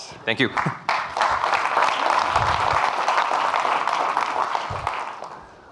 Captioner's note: audience clapping